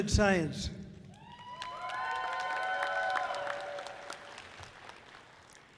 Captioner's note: audience cheering loudly